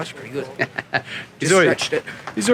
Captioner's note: laughing